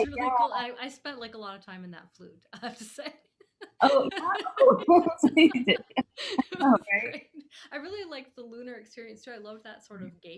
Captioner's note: laughing